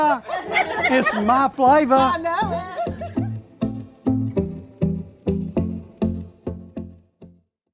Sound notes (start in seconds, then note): 0.1 laughing; 3.5 laughing; 4.4 upbeat music